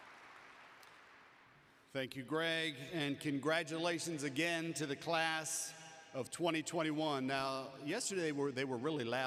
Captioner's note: applause